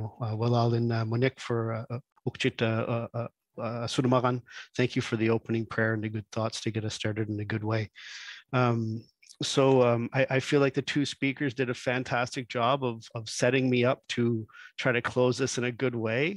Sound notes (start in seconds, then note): 2.1 speaks in Indigenous language